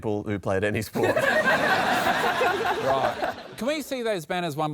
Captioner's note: laughter